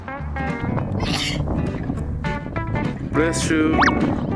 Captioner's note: sneezing